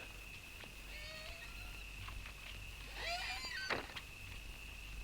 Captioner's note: door creaks